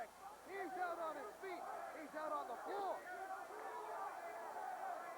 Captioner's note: crowd chatter